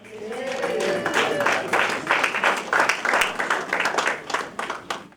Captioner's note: applause and Cheering